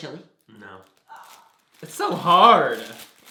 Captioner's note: sighs in despair